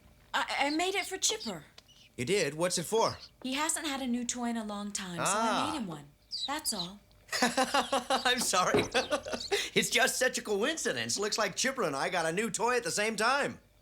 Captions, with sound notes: - Uh, I-I made it for Chipper. - You did? What's it for? He hasn't had a new toy in a long time, - so I made him one. That's all. - Ah. (LAUGHS) I'm sorry. (CHUCKLES) It's just such a coincidence. Looks like Chipper and I got a new toy at the same time.